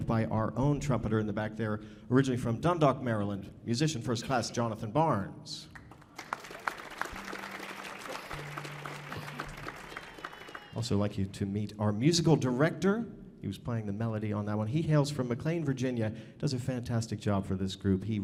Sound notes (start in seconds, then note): 5.8 audience applauding